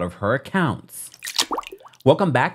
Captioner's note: water drop